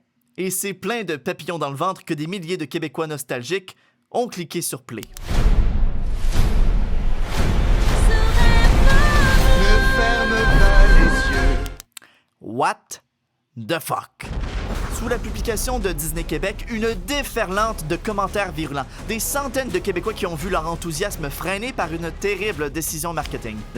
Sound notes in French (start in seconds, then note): 5.0 clic; 5.1 musique dramatique; 11.6 clic